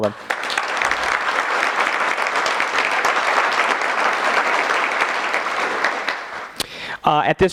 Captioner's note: applause